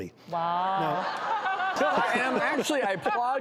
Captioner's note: laughter